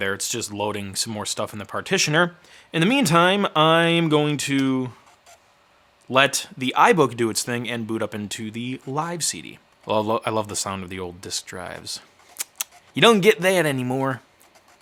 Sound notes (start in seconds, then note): 12.4 clicking